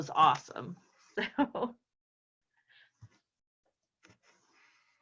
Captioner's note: chuckles